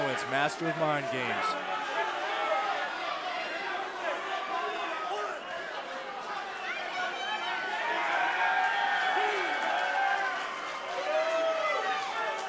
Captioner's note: crowd cheering